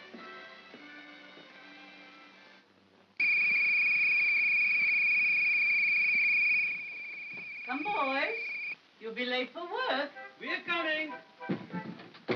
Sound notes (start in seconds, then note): 0.2 ominous soft music; 3.2 whistle blows